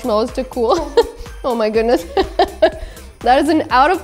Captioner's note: laughs